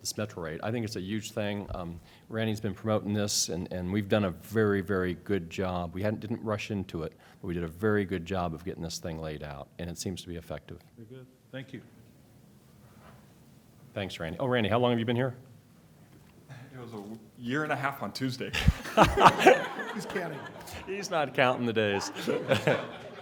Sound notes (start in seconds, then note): 18.5 laughter